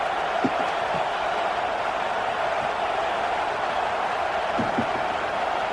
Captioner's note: crowd Noises